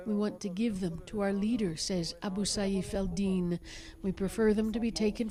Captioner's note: speaking alternate language